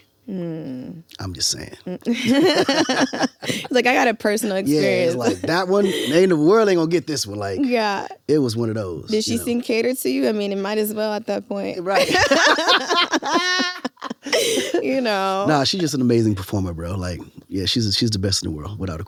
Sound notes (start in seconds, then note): 2.0 both laughing; 11.9 both laughing